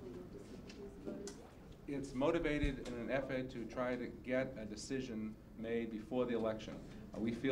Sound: man talking

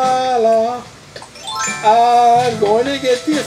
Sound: chimes as ladder appears; sing-song voice

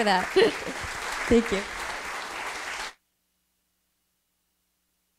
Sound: laughs; audience applauds

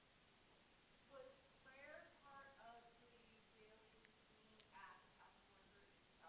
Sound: woman speaking off microphone

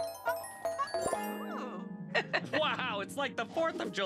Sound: Ms. Tab chuckling

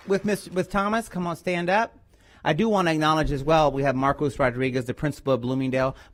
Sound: applause

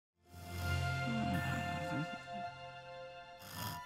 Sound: snoring

